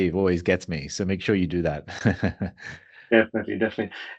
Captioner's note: laughs